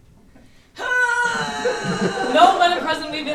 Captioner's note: Schmoopy groans